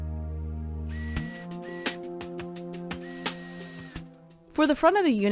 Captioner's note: drill whirring